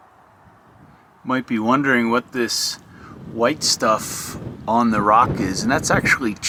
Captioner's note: wind noise